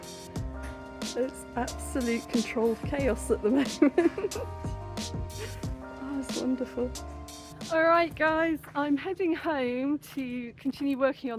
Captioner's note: laughing